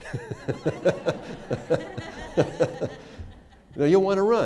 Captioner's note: laughter